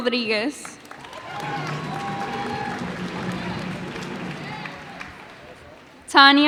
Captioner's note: cheers and applause